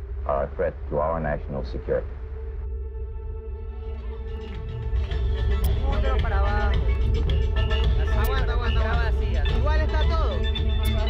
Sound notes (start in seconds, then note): 3.5 speaking in foreign language; 3.5 suspenseful music